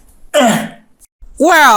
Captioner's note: groaning